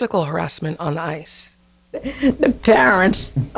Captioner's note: soundbite of archived recording